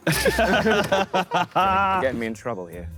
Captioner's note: Sidemen laugh